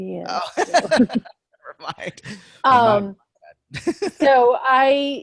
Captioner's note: laughs